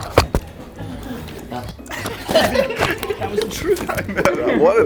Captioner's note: laughing